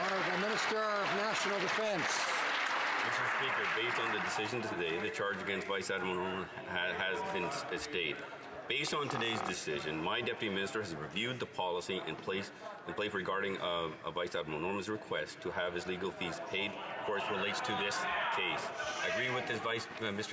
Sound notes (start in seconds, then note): 2.1 some Applause